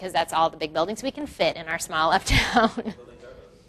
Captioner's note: laughs